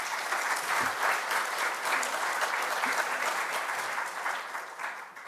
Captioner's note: audience applauding